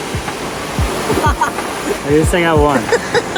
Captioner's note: laughing